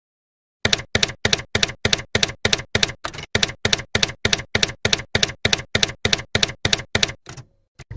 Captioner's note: typewriter keys clacking